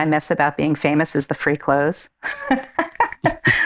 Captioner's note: laughing